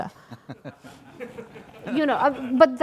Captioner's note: laughter